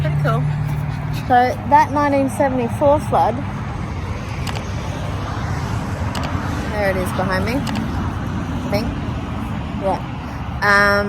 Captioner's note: loud traffic continues